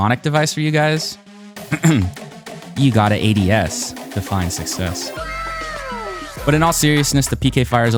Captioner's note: ahem